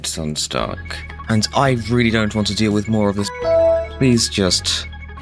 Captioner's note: windows 7 log off sound